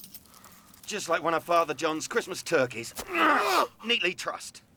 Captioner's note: groans